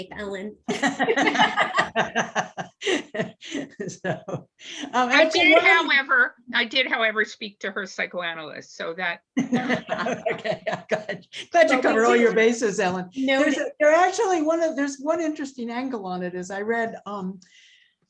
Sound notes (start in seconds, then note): 0.7 laughter; 9.4 laughter